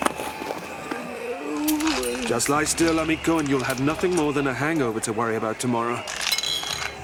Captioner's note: groans; glass clinks